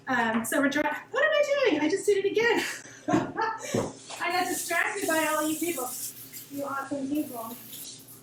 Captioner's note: laughs